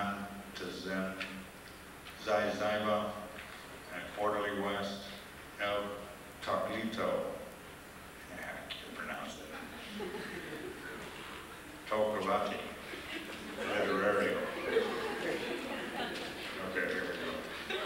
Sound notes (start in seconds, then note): 12.8 laughter